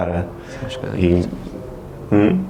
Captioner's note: mumbles